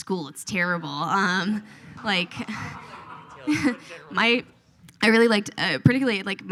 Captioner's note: audience laughs